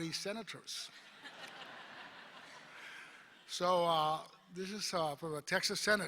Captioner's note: laughter